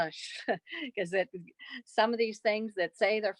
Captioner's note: laughter